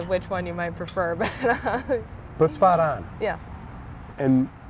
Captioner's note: laughs